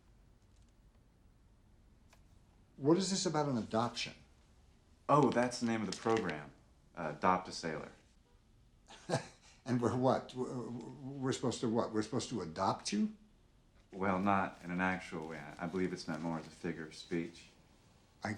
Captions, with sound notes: - What is this about an adoption? - Oh, that's the name of the program. Adopt A Sailor. - (chuckles) And we're what? We're supposed to what? We're supposed to adopt you? - Well, not in an actual way. I believe it's meant more as a figure of speech.